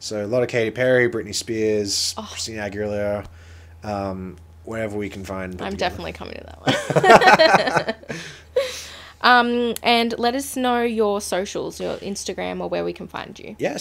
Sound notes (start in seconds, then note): 8.8 both laughing